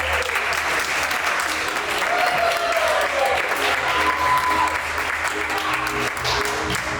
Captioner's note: crew continue applauding and cheering